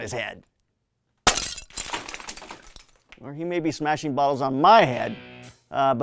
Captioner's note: bottle breaking